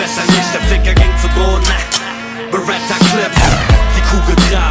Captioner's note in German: Gunshot